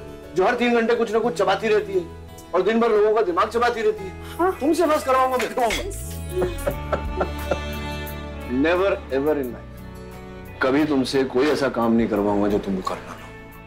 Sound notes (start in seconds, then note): 6.3 Rohit laughing aloud